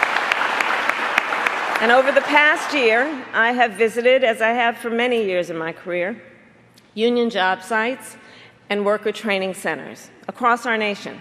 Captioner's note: applause